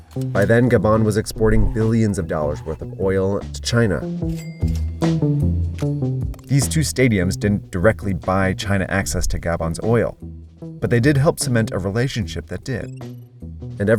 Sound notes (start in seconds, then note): 4.3 bell dings; 4.3 lively music